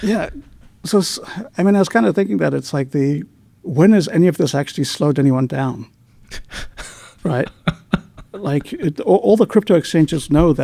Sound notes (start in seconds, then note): 8.9 laughing